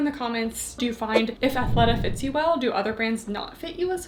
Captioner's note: screen whooshing